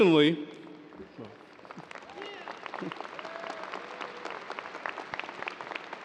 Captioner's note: audience cheers and applause